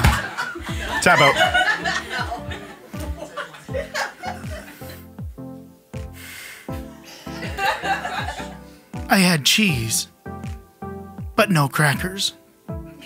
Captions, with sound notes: - Tap out. (laughing) I had cheese. But no crackers.